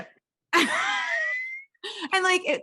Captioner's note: both laughing